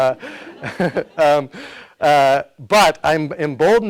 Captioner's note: audience laughs; laughs